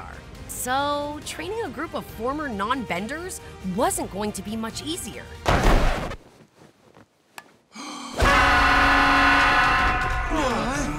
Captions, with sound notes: so training a group of former non-benders wasn't going to be much easier. [loud horn blaring] [groaning]